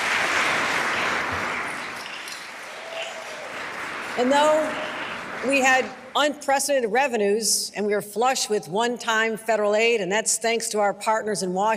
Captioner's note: applause